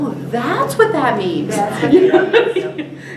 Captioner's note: laughter